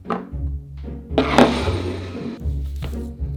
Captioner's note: bowl sliding